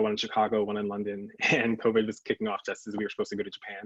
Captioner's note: chuckles